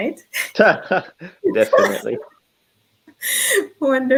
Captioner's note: laughing